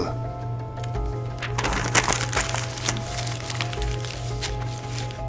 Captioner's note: paper rustling